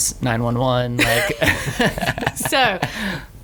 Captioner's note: laughs